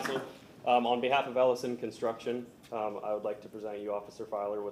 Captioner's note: applause